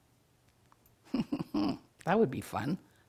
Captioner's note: chuckling